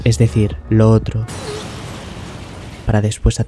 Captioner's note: burst